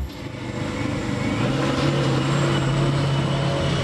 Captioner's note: scraper sound